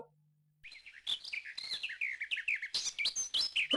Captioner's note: birds chirping